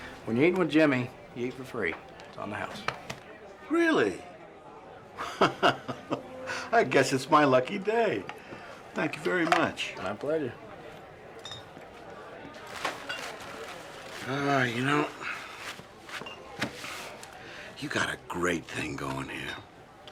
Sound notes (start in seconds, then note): 5.1 laughs